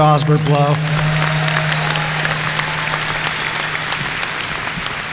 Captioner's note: audience applauding